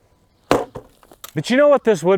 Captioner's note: post thumps